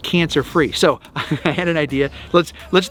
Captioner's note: laughs